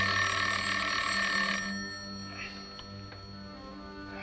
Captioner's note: phone ringing